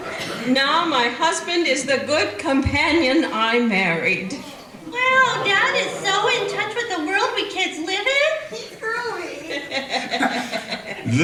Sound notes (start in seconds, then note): 4.9 kids voices; 9.3 laughter